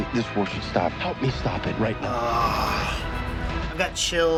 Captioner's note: sighing